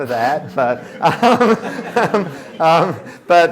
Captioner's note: laughter